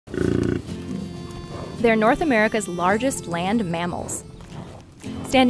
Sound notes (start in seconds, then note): 0.1 bison growls; 0.2 laid-back country music